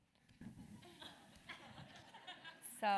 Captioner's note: laugh